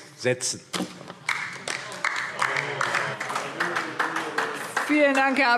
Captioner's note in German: Beifall DIE LINKE